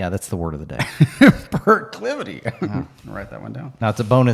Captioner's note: laughs